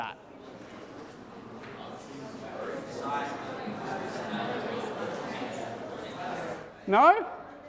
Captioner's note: background Conversation